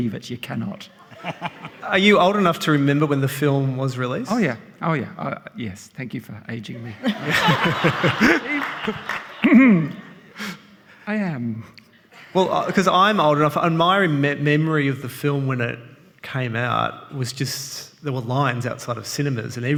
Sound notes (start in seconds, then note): 6.8 all laughing